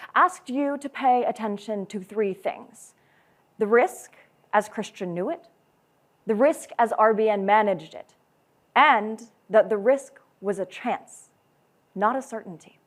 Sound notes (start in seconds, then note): none